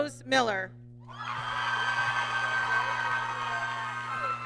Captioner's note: applause